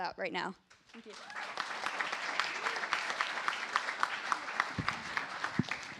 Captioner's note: applause